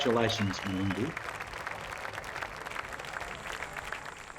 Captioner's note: crowd clapping